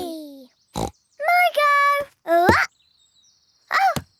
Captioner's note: snorts